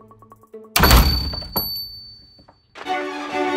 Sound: bell rings; door squeaks open; door thuds; bell rings; victorious music

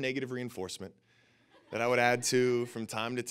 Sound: audience laughing

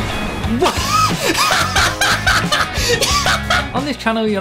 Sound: laughing

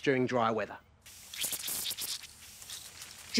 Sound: water sprays

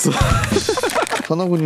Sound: laughs

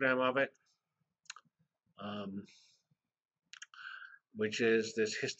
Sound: pause

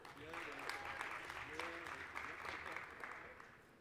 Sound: applause

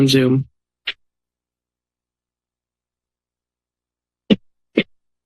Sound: silence

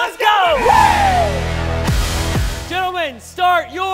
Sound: cheering

